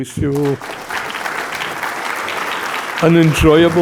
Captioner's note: audience applauding